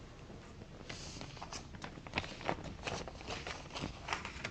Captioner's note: rustling paper